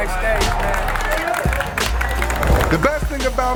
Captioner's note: clapping